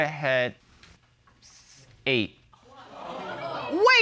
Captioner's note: audience exclaims